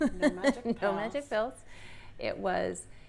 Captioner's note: laughs